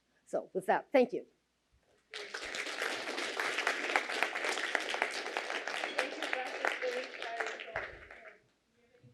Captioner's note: applause